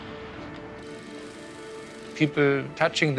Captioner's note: drilling